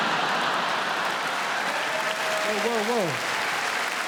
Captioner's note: crowd cheers